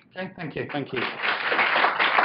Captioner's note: audience applauds